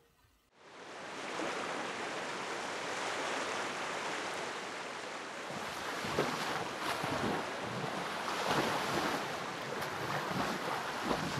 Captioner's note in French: Bruits de vagues